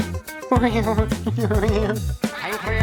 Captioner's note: sinister chuckling